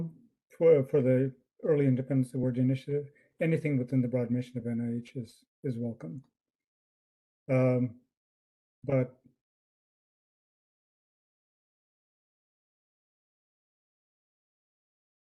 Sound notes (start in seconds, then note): 11.1 pause